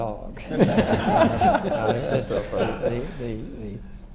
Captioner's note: everyone laughs